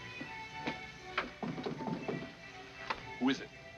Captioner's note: knocking on door